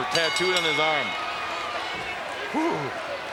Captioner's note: bell rings